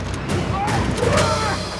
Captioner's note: groans